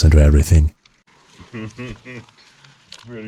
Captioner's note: laughter